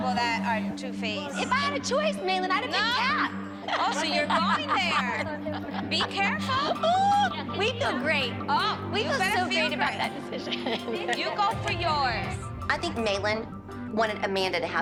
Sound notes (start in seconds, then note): 3.6 laughs